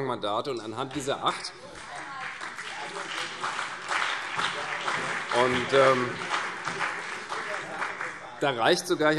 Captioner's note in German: Beifall CDU und BÜNDNIS 90/DIE GRÜNEN